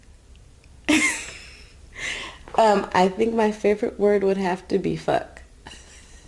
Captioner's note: laughs